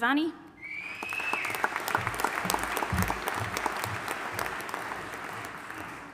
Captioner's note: attendee whistling; audience applauding